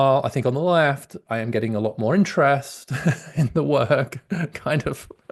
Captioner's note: laughs